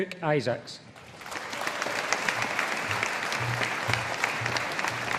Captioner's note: audience applauding